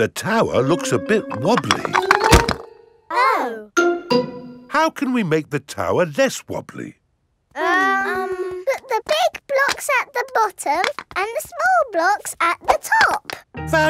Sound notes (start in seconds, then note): 7.6 children hesitating